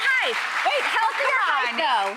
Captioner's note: audience clapping